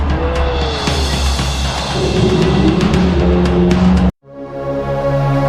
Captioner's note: dinosaur growls